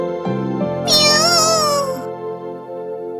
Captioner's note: roar